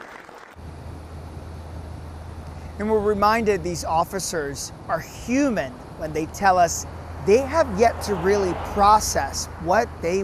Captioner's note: applause